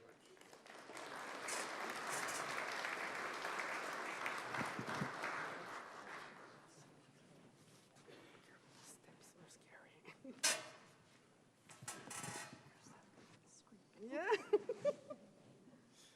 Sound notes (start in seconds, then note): 0.0 applause; 8.5 soft whispering